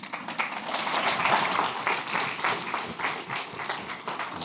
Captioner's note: applause